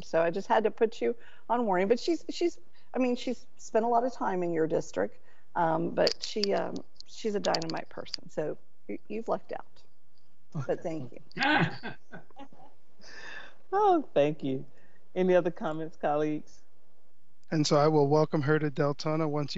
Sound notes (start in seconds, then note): 11.4 members laughing